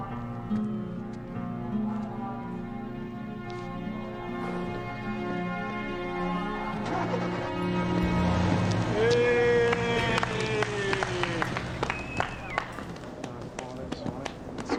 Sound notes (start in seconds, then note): 11.8 man whistles